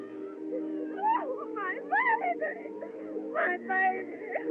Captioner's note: crying